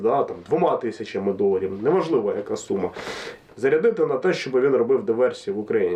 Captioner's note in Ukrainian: сопіння